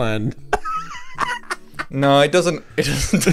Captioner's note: laughing